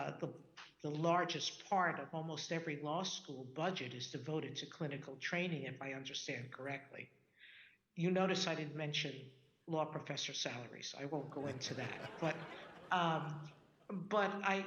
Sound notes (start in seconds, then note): 11.3 audience laughing